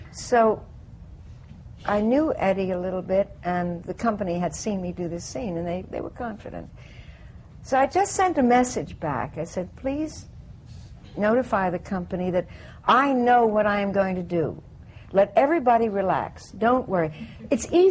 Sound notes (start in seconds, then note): none